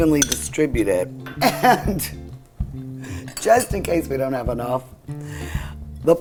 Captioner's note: laughs